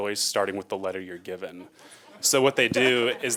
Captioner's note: laughing